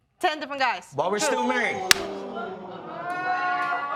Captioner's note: audience react